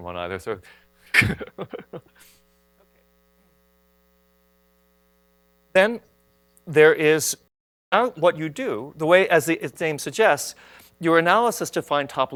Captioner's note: laughs